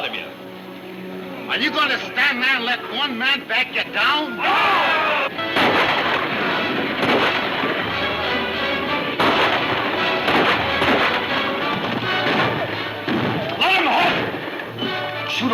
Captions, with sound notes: - Are you gonna stand there and let one man back ya down? (crowd yells) (gunfire pops) - Let 'em have it. Shoot over their heads first.